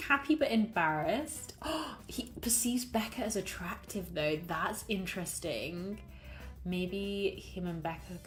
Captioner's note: gasps